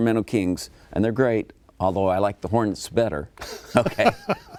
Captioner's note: laughs